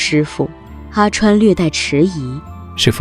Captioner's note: slightly hesitant